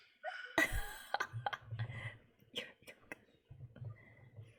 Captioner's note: laughs